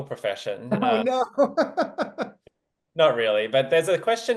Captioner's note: laughs